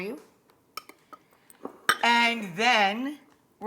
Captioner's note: bowls clink